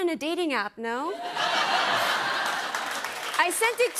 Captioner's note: laughter